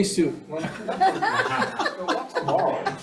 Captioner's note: committee laughs